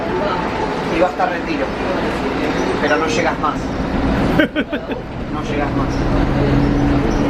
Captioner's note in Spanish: risas